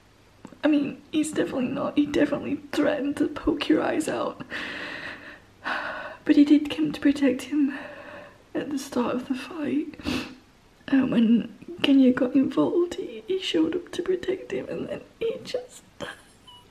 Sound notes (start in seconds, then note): 4.2 shaky sigh